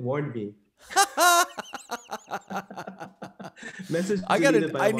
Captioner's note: laughing